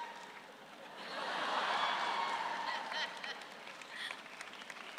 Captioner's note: audience laughs